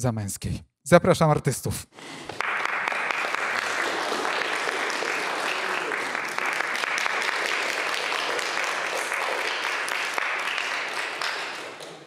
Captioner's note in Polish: Aplauz